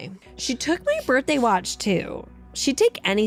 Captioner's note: none